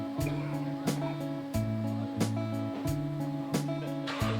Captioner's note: engine revving